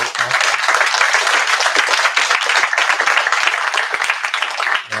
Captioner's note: applause